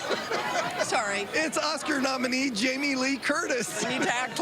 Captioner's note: laughter